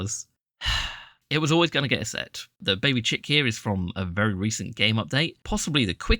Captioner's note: sigh